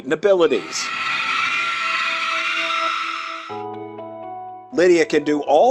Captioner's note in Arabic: صراخ